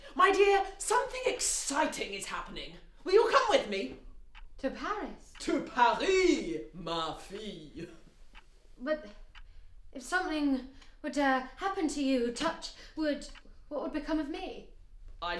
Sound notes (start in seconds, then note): 5.7 speaks in foreign language